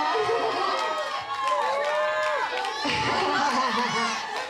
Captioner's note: crowd cheers